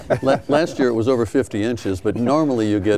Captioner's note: laughing